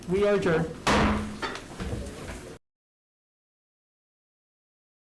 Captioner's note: gavel striking